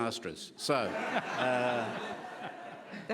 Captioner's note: laughing